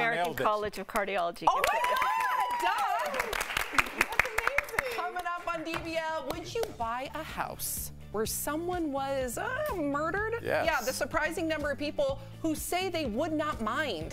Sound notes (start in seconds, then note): 6.2 applause